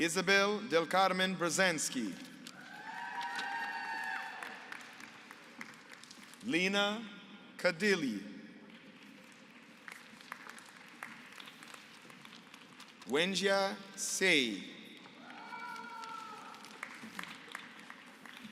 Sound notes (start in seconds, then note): 2.6 applause; 8.8 applause; 15.1 applause